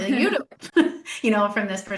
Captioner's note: laughs